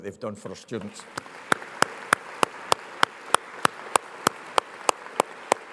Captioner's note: audience applauds